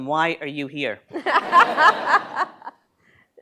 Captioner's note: laughter